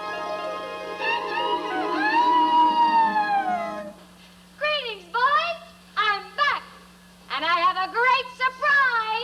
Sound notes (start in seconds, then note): 1.3 crowing